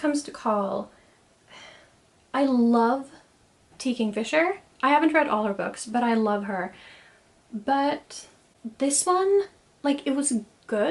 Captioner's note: sighs